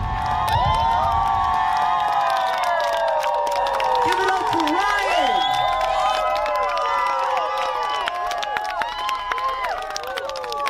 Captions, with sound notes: (crowd cheers) - Give it up for Ryan! (crowd cheers)